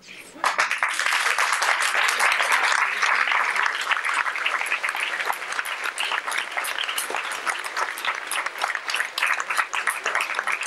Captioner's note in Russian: Аплодисменты